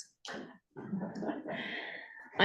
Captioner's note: laughter